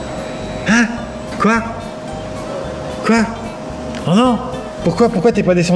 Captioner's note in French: gémissement d'incompréhension